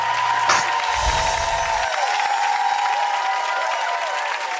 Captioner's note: crowd cheering and clapping; chimes ring